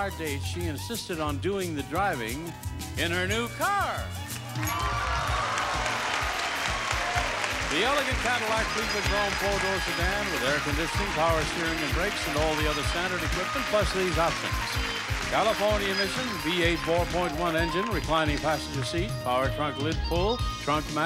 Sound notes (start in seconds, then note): 4.6 audience applauding; 4.6 audience cheering